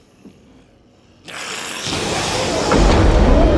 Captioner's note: Strigoi shrieks; Sinclair yells; dramatic music